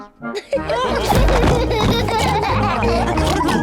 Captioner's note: all laugh